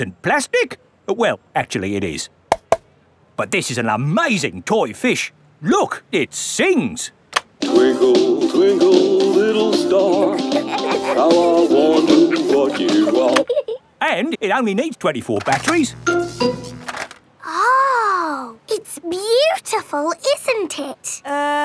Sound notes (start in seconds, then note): 2.5 taps; 10.0 both giggling; 15.7 buzzing